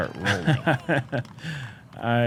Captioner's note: laughs